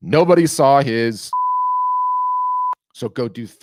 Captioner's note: loud beeping